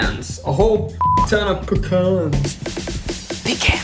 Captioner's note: beep; upbeat music